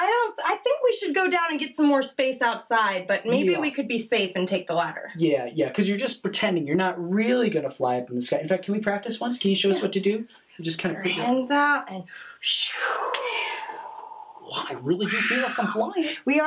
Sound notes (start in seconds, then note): 13.1 whooshes